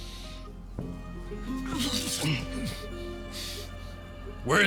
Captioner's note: Oliver groaning